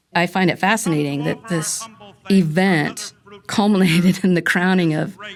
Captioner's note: laughing